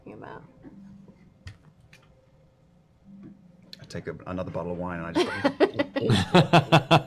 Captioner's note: laughing; gulps